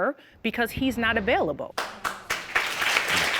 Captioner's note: audience applauding